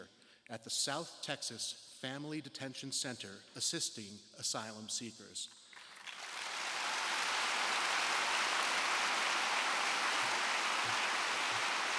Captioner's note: applause